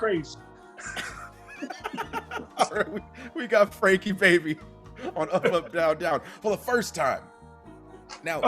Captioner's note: laugh